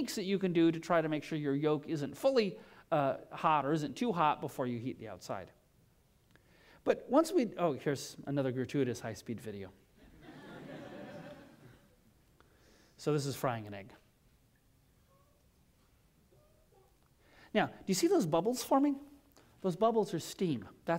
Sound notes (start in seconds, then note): 10.0 laughter